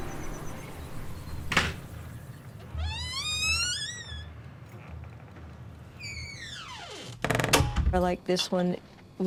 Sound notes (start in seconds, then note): 2.1 birds chirping; 7.3 door creaks open and close